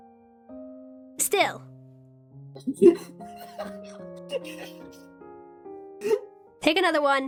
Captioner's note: JADE laughs